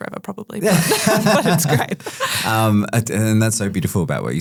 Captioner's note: group laughing